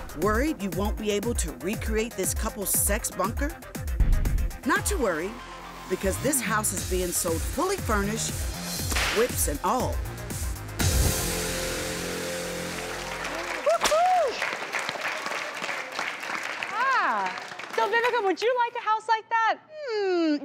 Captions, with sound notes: Worried you won't be able to recreate this couple's sex bunker? Not to worry, because this house is being sold fully furnished, whips and all. (whip cracking) (crowd clapping) So Vivica, would you like a house like that?